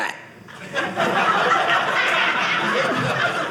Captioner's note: audience laughing